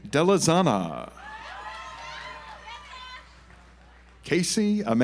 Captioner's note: audience applauds